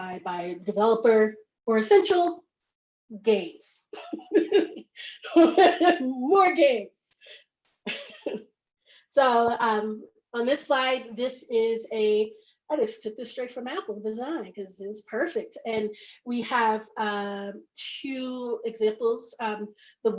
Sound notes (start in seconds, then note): 4.0 laughs